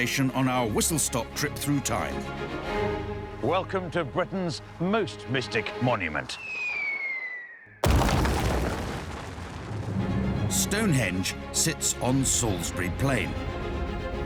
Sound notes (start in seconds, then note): 6.2 whistling; 7.8 crash